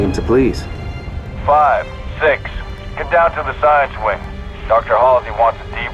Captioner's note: radio